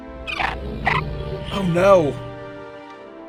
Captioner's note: distorted linking sound